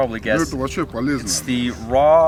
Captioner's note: speaking in foreign language